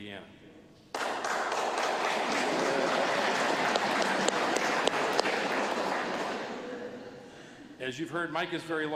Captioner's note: applause